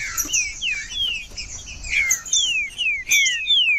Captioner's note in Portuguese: trinca ferro cantando